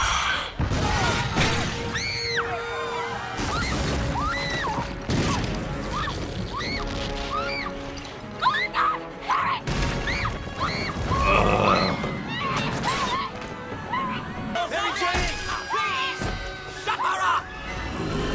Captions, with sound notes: [Explosion] [Screaming] "Oh my god, HARRY!" [Resumes screaming] [Screaming continues in background] [Suspect groans] [Continues screaming] "Could someone please shut her up!"